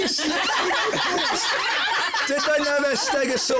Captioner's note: laughter